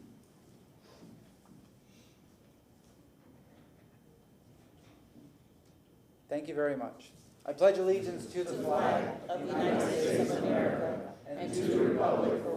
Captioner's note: moment of silence